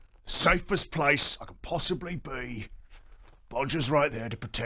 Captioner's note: none